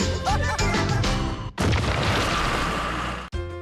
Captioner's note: rocks Clatter